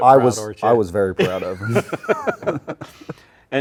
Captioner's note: both laughing